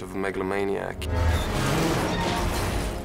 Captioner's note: metal creaking